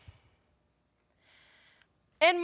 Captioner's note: breathes